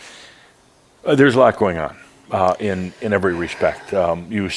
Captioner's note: sighs